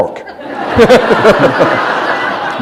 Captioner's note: laughter